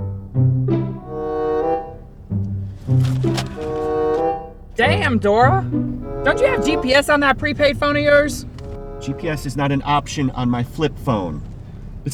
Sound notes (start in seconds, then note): 2.4 map rustles